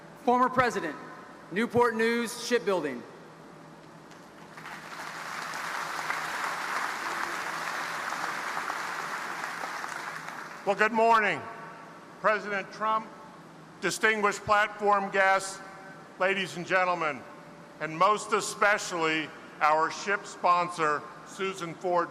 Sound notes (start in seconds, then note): 4.4 audience applauding